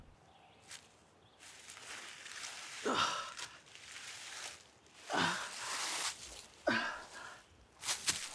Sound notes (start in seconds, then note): 1.3 leaves rustling; 2.9 Arawn groaning